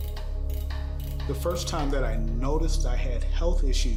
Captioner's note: gear creaking